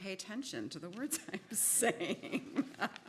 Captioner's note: laughs